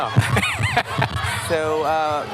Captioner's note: laughs